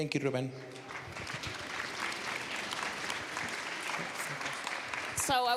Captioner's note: applause